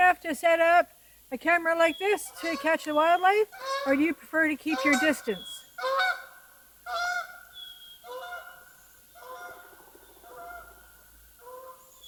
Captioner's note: Canada Geese Fly overhead - honking